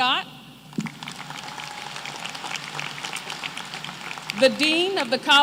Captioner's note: applause